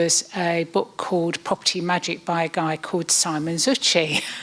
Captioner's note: laughs